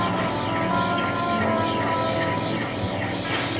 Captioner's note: whisking